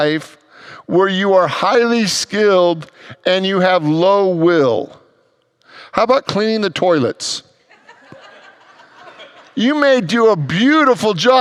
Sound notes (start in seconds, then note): 7.6 congregants laugh